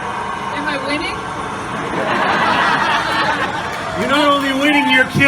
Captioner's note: laughing